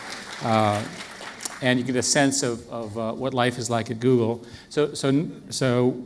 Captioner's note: applause